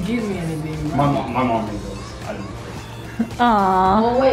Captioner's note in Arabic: تمتم